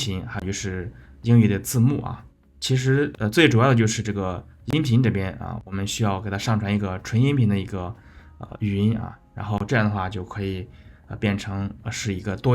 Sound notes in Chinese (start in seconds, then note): 7.4 英语